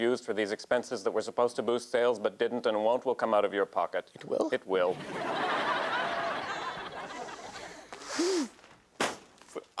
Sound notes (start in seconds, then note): 4.9 audience laughs